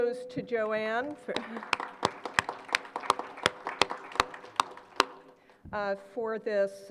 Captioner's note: applause